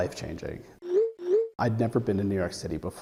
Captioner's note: cellphone dinging